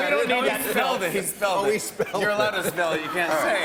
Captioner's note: laughter